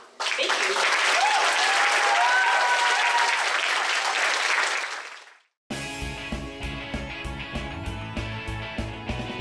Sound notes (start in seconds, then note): 0.0 applause; 5.9 upbeat pop music